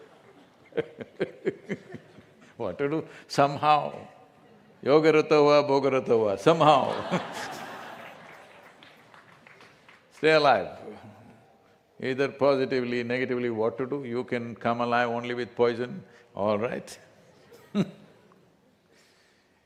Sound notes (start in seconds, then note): 0.0 laughter; 6.7 laughter/Applause; 16.8 laughs